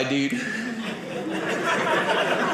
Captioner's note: audience laughing